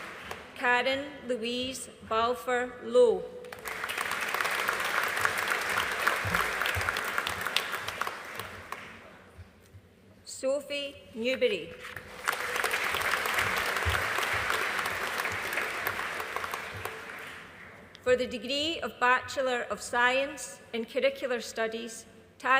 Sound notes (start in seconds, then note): 3.5 audience applauding; 12.0 audience applauding